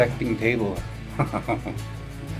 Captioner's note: laughs